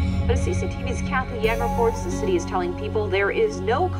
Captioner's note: voiceover